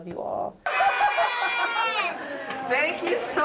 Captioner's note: cheering